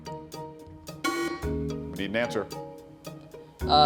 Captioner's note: bell sounds